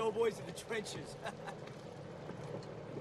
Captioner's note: laughs